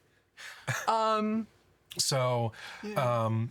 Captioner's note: laughing